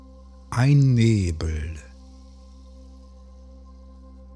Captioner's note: german